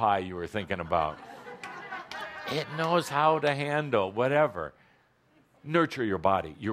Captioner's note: laughter